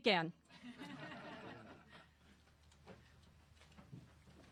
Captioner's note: crowd chuckles